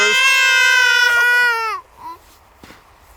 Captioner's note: babies crying